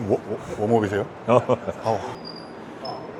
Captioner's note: huhuhu